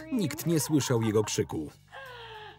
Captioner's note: laughing